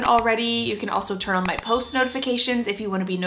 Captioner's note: mouse clicking; bell ringing